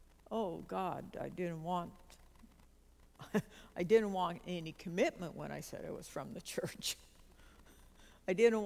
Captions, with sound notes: oh God, I didn't want (uncomfortable giggle) Didn't want any commitment when I said I was from the church. (uncomfortable giggle) I